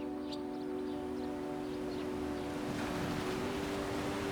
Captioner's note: birds chirping